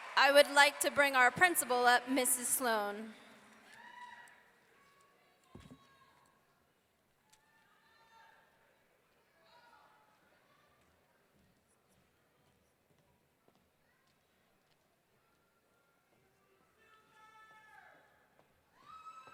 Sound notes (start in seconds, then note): 0.0 audience clapping and cheering; 4.1 audience cheering